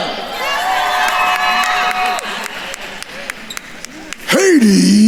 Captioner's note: attendees cheering and applauding